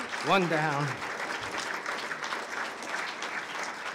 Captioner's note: applause